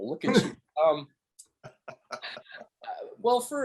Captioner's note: laughing